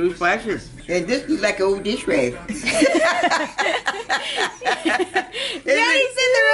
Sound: laughter

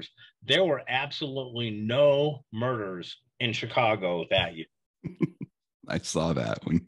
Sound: laughs

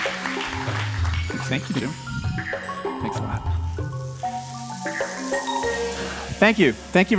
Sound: applause

